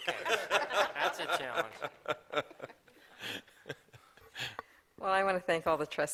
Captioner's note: laughter